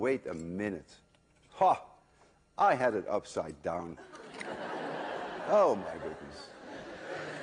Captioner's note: laughter